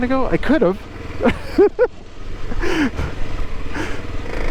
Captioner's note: laughs